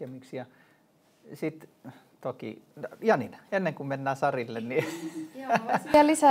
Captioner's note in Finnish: naurua